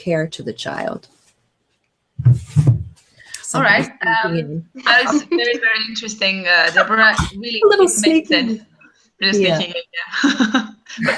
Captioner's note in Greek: γέλιο και αστεία σχετικά με την διακοπή